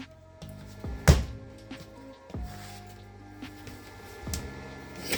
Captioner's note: calm, jazzy music; floor slamming